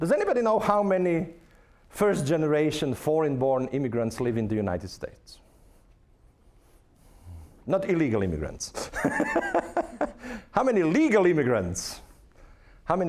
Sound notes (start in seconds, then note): 9.9 laughing